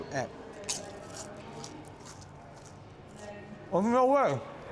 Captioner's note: crunching